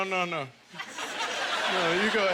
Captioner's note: audience laughter